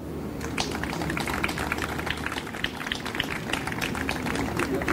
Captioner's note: audience applauds